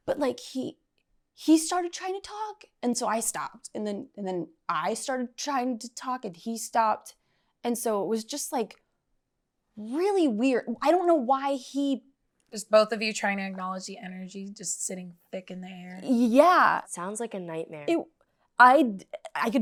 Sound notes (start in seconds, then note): none